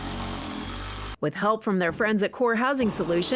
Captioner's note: drill buzzing